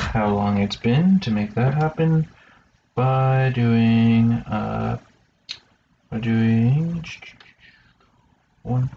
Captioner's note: vocalizes thoughtfully